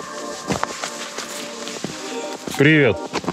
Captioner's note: rustling, footsteps